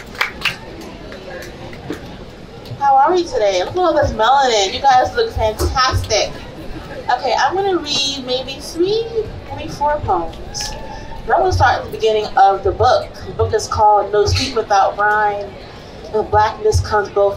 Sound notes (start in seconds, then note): 7.9 applause